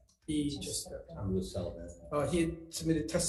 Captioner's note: senator speaks faintly